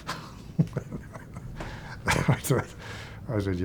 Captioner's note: laughs